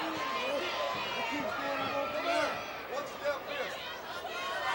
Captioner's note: wrestlers chattering